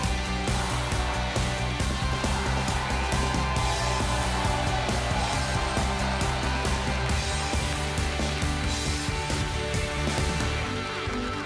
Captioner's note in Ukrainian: оплески